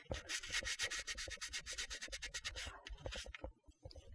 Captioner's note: block scratching